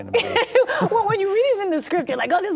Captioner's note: laughing